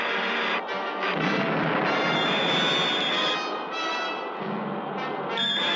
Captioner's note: explosion booming